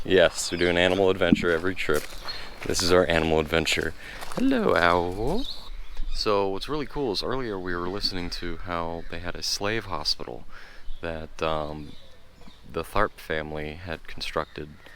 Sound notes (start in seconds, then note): none